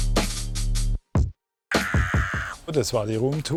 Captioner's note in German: Schrei